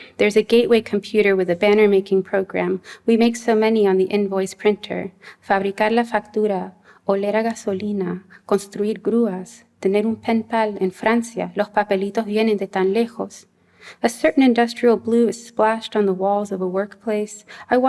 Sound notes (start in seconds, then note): 5.4 non-english speech